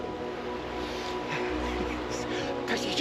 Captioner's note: laughter